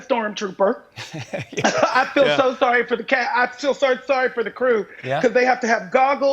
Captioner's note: laughs